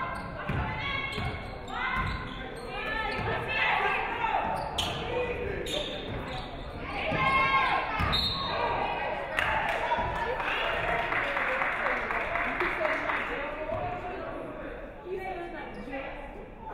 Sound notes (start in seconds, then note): 8.0 referee whistles; 9.3 audience clapping